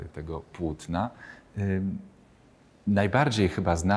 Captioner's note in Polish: cisza